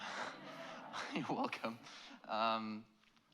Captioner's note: laughs